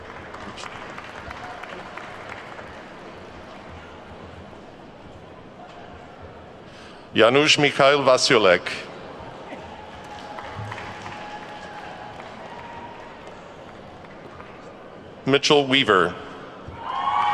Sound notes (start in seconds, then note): 0.0 attendees clapping; 9.2 attendees clapping; 16.7 attendees whooping and clapping